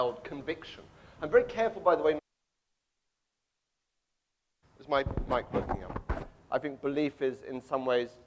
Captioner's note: microphone cuts out